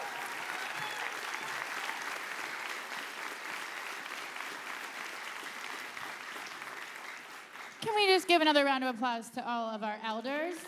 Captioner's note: applause